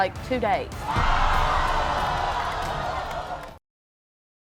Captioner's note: hollering